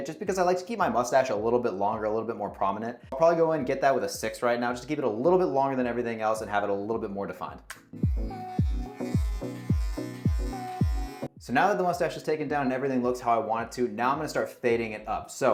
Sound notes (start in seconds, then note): 7.6 uptempo music; 7.9 razor buzzing